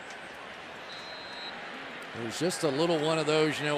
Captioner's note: whistle blows